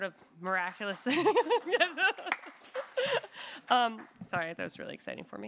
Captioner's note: audience applauding; laughs